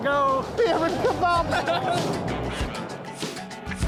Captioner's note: laughter